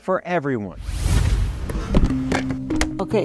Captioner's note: scene swooshing